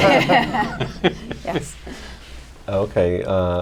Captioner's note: laughter